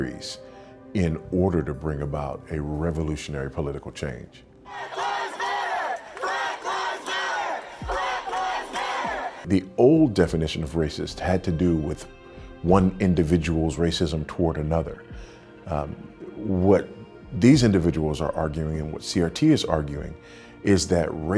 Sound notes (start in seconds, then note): 4.6 chanting